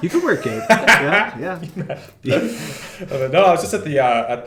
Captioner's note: laughter